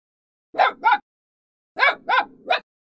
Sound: puppy barking

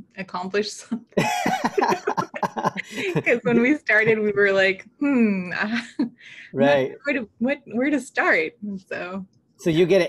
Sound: laughter

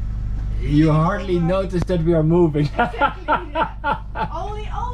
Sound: laughs

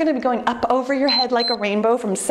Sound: timer beeps

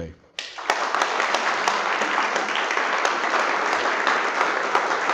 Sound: audience applauds

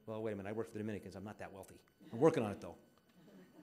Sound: audience laughing

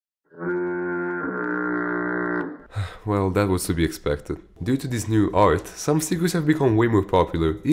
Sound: sigh

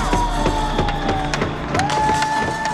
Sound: cheering

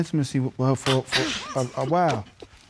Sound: laughs

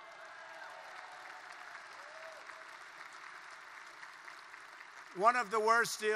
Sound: applause

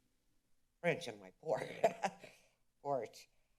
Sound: laughter

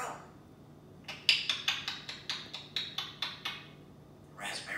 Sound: bird clucking

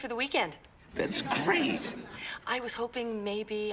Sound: audience laughing

